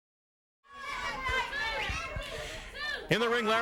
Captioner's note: crowd murmuring